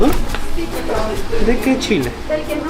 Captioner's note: speaking in Spanish; server speaking in Spanish; speaking in Spanish; server speaking in Spanish